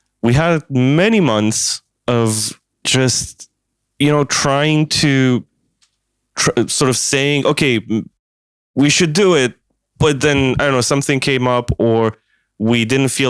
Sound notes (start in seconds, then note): none